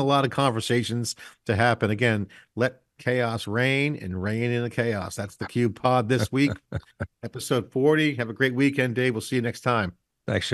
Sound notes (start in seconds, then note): 6.1 laughing